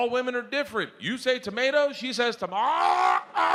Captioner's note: gags